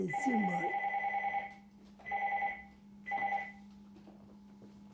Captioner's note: phone ring